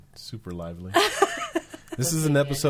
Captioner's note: laughing